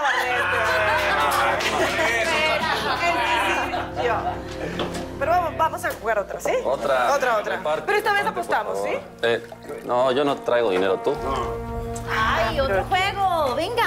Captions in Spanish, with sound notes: [Risas] [Gritos y exclamaciones] Pero vamos a jugar otra, ¿sí? Otra, otra. - Otra... reparte. - Pero esta vez apostamos, ¿sí? - No, yo no traigo dinero. ¿Y tú? - No. - ¡Ay, otro juego, venga!